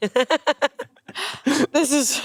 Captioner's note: they laugh